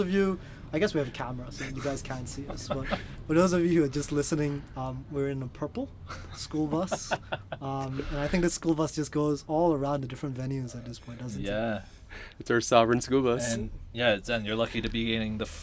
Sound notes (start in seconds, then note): 6.0 man 1 chuckles